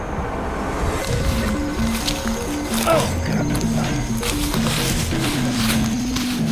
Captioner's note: groans